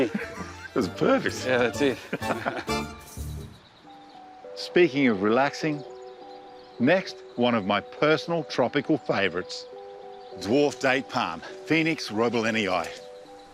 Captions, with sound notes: (CHUCKLES) This is perfect. Yeah, that's it. (BOTH CHUCKLE) Speaking of relaxing, next, one of my personal tropical favourites. Dwarf date palm, Phoenix roebelenii,